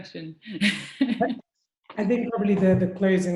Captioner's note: laughs